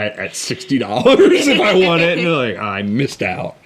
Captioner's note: both laugh